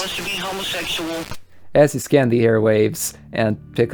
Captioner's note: radio switched off